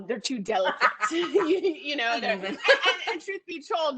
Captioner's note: laughing